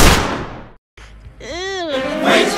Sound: groan in disgust

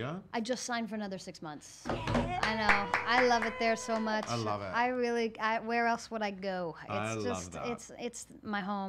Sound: claps

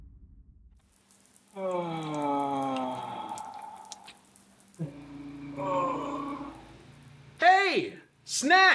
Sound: Ben moaning

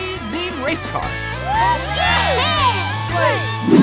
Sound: cheering

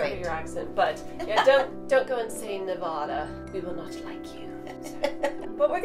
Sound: laughs; laughs

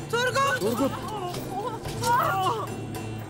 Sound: İnleme sesleri

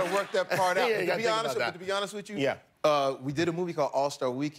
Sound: laughter

